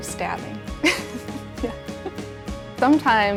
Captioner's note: chuckles